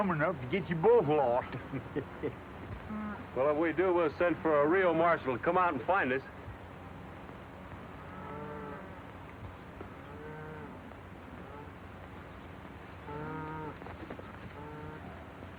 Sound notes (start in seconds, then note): 0.9 laughs; 9.7 cattle lowing